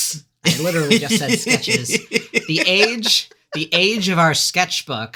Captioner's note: laughing